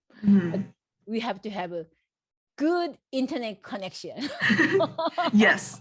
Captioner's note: laughs